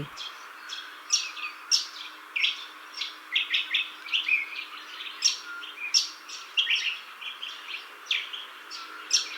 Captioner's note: birds chirping